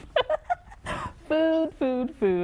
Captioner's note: laughs